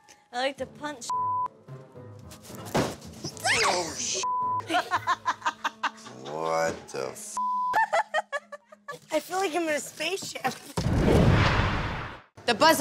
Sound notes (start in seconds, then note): 3.9 yelling; 4.6 laughing; 7.7 laughing; 11.0 whooshing